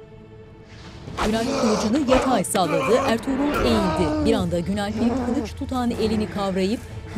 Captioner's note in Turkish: Bağırma sesleri